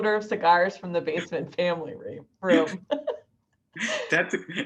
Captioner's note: laughs